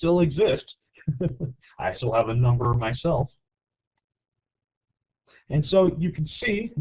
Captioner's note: laughs